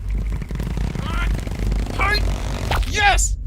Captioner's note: grunting